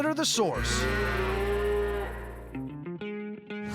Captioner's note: cattle mooing